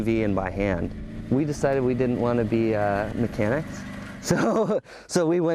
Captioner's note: laughs